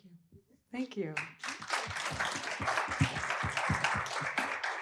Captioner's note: appluase